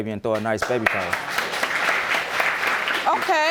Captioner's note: applause